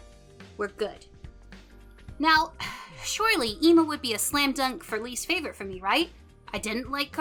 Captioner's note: sigh